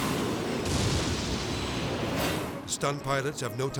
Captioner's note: jet exploding